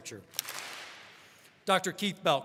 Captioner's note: all clap